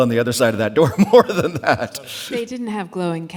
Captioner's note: laughs